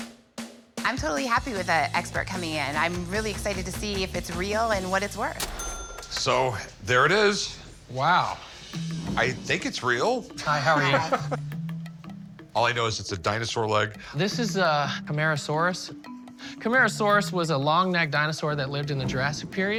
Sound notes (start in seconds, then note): 5.4 cash register ring; 10.4 chuckles